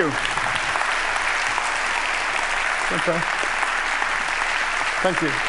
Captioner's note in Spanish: Aplausos